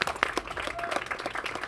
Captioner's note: applause